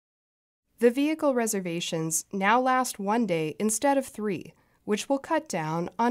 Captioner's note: voice-over